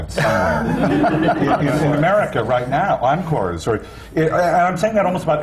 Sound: laughter

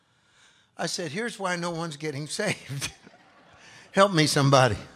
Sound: laughs

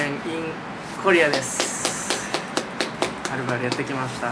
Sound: clap

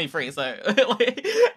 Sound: she laughs

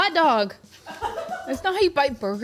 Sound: laughing

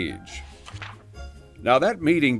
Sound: page flip

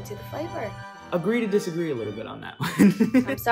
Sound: laughing

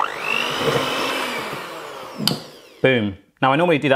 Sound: mixer whirs

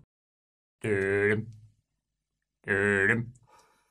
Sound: making suspenseful sounds

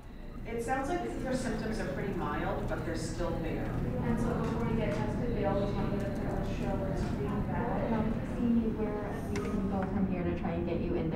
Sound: background chatter

